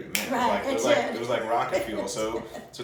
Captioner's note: laughs